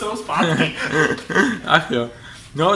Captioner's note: laughing as a seal